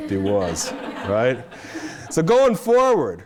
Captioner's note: audience laughing